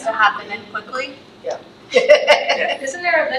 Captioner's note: laughs